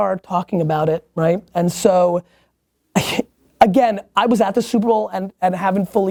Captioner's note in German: seufzt